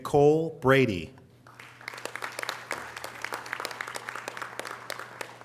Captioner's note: audience applause